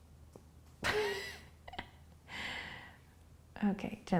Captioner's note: laughing